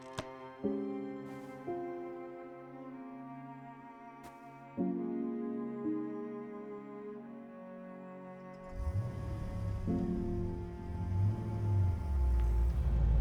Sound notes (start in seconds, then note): 0.1 slow music; 8.6 engine rumbling